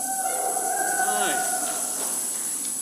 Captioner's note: congregant cheers